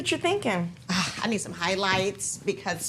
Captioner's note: sighs